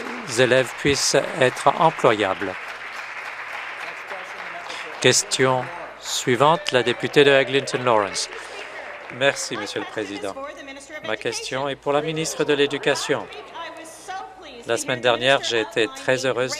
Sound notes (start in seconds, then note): 0.0 applause; 2.3 applause; 9.9 applause; 10.3 cheers